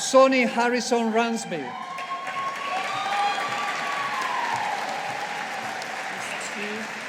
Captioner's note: audience applauding